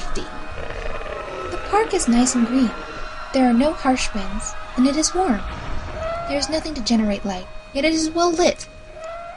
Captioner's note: chaotic destructive noises continue int he background